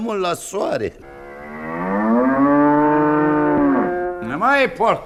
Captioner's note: mooing of a cow